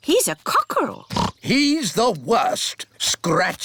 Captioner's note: oinks